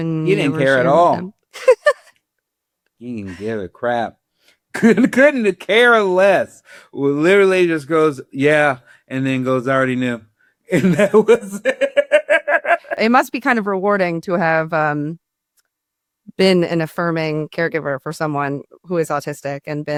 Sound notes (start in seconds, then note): 1.5 laughs; 10.7 laughs